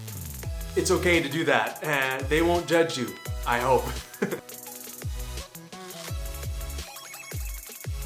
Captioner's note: laughter